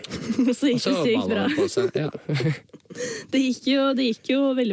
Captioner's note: laughs